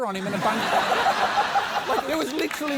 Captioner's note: laughter